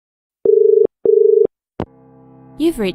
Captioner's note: dial tone